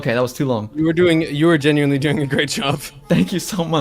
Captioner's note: laughs